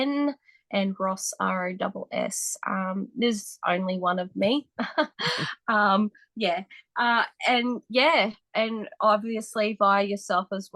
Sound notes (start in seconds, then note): 4.9 laughs